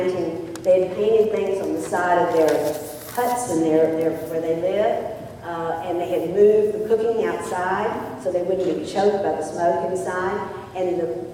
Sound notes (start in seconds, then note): none